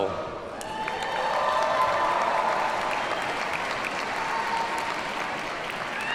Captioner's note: audience cheers and applauds